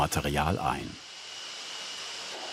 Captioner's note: hissing